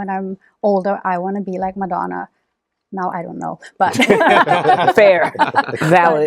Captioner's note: laughter